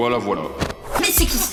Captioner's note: sounds of brawl